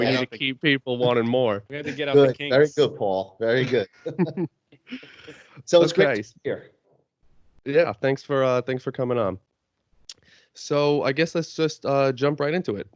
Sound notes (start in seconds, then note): 4.8 laughs